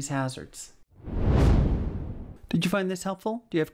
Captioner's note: whooshing